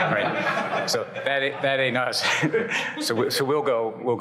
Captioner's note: audience laughs; chuckles